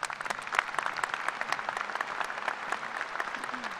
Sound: applause

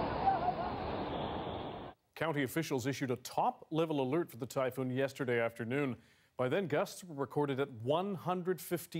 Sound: yelling

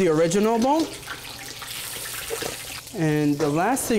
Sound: oil sizzling

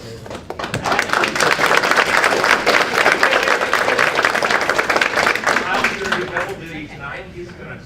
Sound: applause

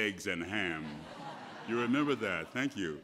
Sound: laughter

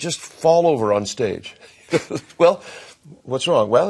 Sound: chuckles

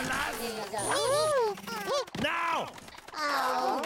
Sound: Bongolalas gasp

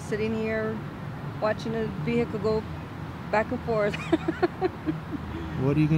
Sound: laughs

